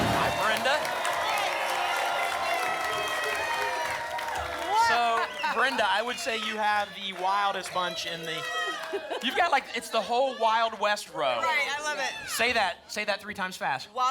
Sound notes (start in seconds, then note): 1.3 applause and cheering cont